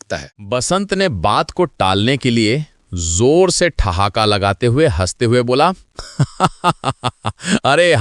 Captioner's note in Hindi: हंसी